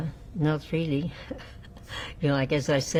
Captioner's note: laughing